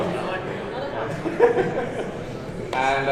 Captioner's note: laughing